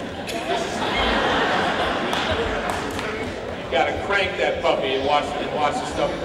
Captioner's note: laughter